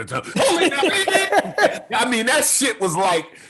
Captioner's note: Gary laughing